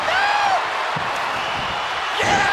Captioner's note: crowd cheering